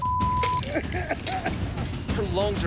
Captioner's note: woman coughing